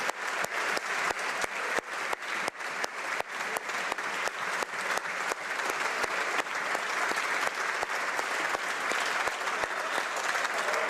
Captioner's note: applause